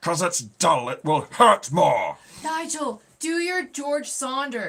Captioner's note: none